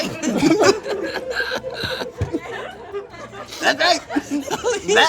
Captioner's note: group laughs